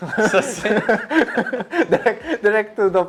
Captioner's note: laughs